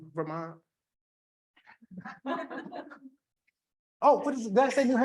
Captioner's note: people laughing